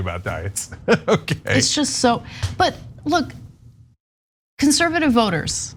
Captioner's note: laugh